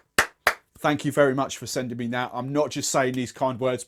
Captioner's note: claps